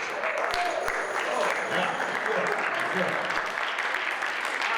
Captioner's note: audience applauds